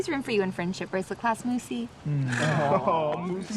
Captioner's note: laughter